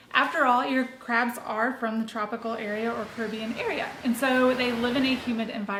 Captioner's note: ocean sounds